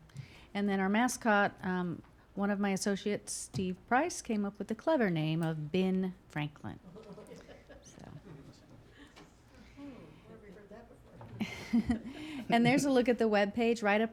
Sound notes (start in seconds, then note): 6.9 audience laughing lightly; 11.3 laughing